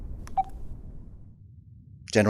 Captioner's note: electronic beep